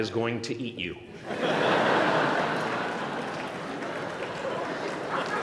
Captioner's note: laughter